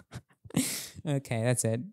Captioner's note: laughing